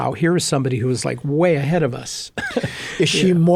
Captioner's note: laughing